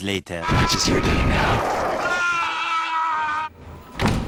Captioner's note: screaming